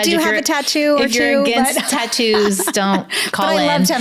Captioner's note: laughs